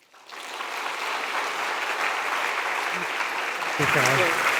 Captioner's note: audience applauding